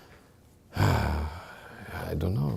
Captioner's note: sighing